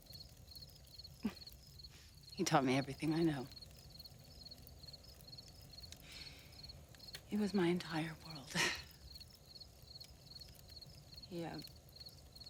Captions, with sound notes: (chuckles) He taught me everything I know. He was my entire world. (chuckles) He, um...